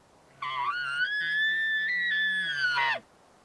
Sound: elk bugles

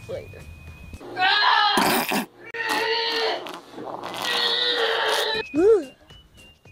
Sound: constipated Screams

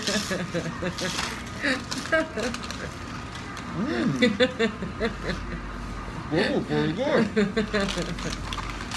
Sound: laughing

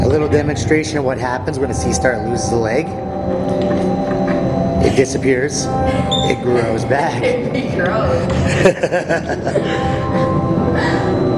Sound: laughter

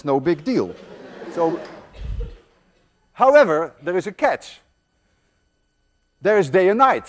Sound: students laugh

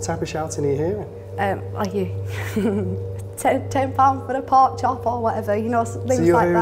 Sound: giggles

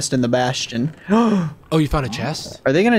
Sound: gasps

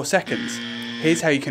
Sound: buzzer

